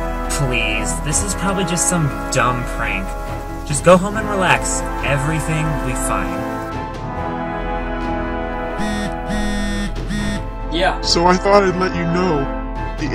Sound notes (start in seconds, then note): 8.7 phone buzzes